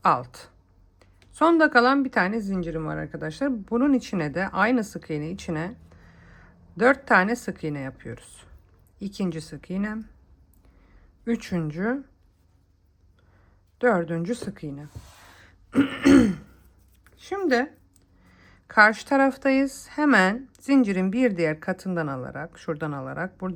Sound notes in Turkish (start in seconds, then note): 15.7 öksürme; 15.7 boğazını temizler